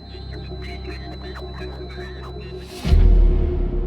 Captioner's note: radio chattering; ominous music continues